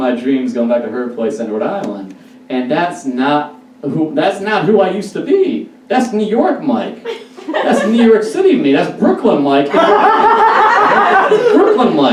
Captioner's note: audience Laughs